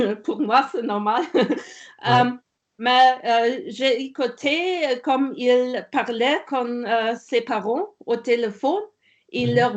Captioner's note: laughing